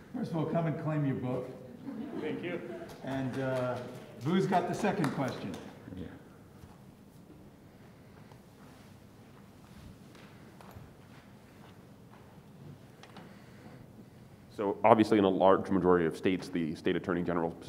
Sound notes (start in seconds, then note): 1.6 students laughing